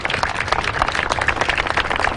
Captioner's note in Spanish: Aplauden